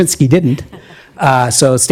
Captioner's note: audience chuckling